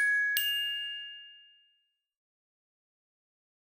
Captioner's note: chimes